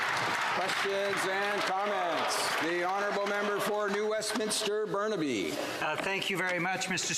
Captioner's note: applause